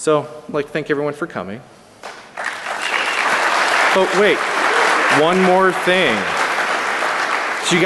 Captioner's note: applause